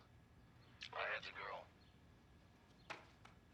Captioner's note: distorted voice